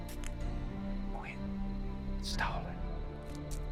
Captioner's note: whispers menacingly